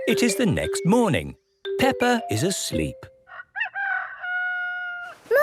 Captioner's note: cock-a-doodle-doo